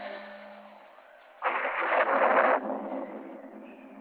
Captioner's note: thunder rumbling